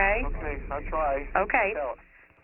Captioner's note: on phone